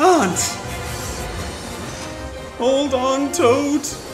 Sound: brakes screech

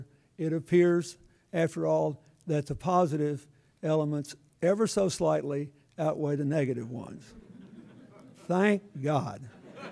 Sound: laughter

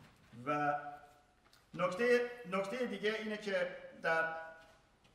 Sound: speaking in farsi

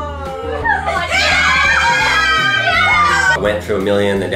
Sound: cheering

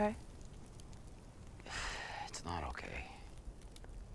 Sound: sighs

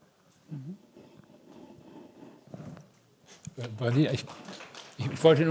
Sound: gentle applause

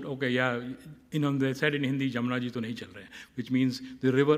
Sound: speaking hindi

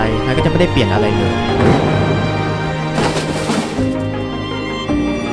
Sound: falling noise

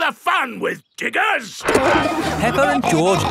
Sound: peppa and george laughing

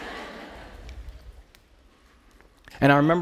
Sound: laughter

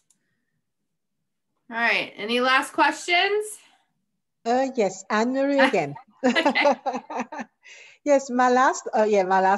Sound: laughs

